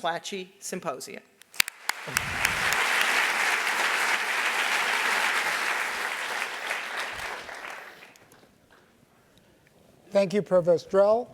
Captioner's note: applause